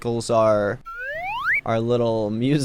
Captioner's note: slide whistle plays